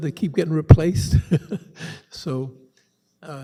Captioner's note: chuckles